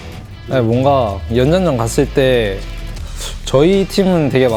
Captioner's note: BuZz